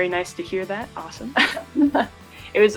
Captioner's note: laughs